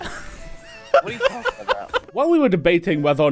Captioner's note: laughter